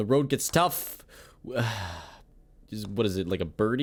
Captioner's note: sigh